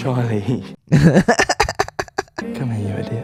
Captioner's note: laughter